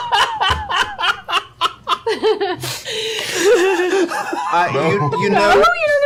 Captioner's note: laughter